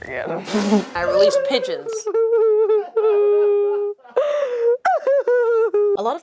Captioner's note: ass-jiggling sobs